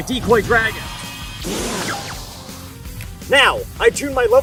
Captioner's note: decoy growls